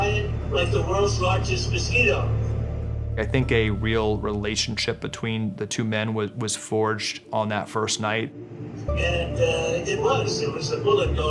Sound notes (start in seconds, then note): 6.0 on speaker phone